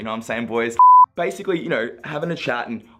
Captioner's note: beep